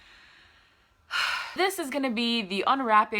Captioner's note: sigh